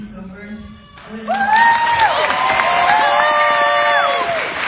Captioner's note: woots and applause